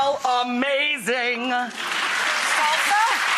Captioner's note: audience applause